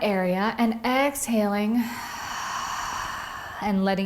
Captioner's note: breathes deeply